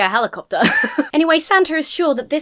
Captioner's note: laughs